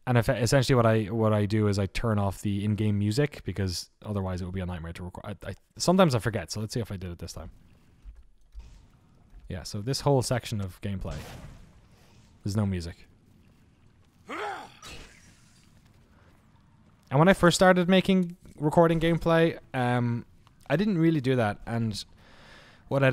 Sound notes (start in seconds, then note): 7.2 water trickling; 14.2 character grunts; 15.2 sword clanking